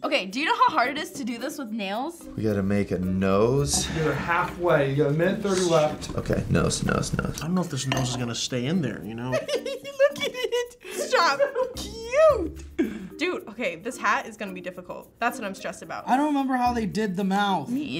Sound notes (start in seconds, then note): 9.2 laughs